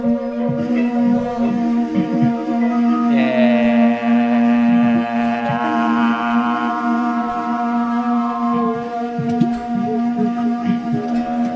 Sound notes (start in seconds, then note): 2.7 horn sounds